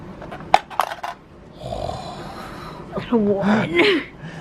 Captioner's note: dice pops